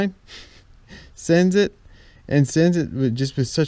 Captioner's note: laughs